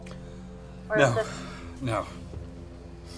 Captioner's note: sighs